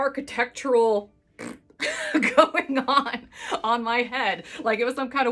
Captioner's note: blows raspberries